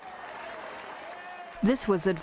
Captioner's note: crowd applauding